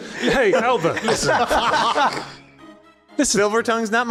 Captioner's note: laughs